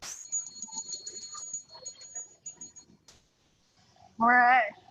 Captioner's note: ringing a bell